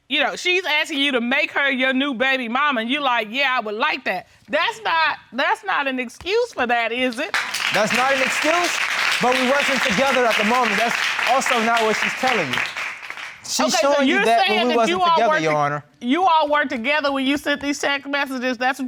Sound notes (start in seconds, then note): 7.2 audience applauding